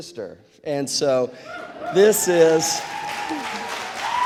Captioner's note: audience cheers